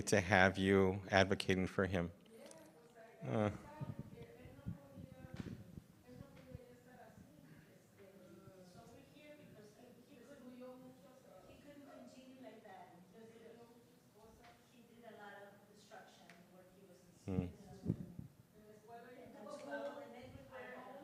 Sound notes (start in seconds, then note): 6.4 woman speaks in foreign language